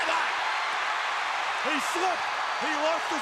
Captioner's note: crowd cheering